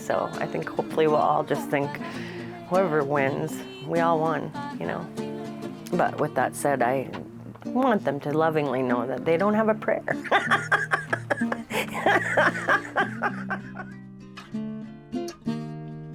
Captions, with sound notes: so I think, hopefully, we'll all just think whoever wins, we all won. But, with that said, I want them to lovingly know that they don't have a prayer. (laughs) (gentle bright music)